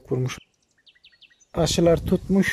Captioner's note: bird sounds